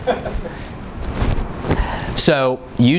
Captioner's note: laughing